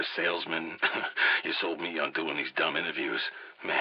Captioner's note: chuckles